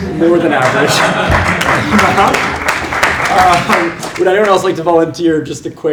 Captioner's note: applause